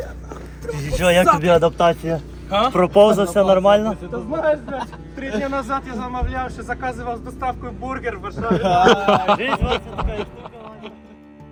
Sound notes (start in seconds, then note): 8.3 laughter